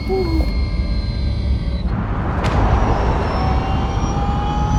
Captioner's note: sub whirring